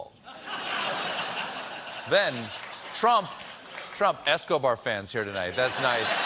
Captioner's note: laughter